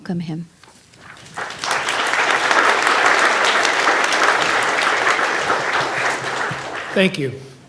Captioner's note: audience clapping